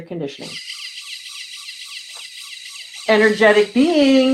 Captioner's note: machine whirring